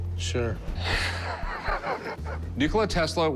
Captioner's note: laughs